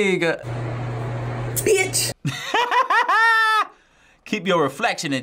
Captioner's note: laughs